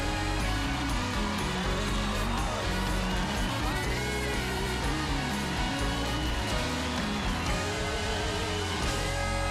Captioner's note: cheers and applause